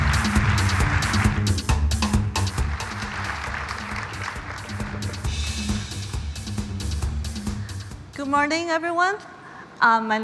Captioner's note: applause